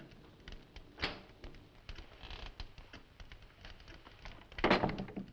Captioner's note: door clicking